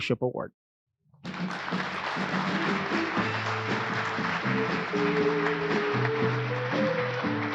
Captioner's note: applause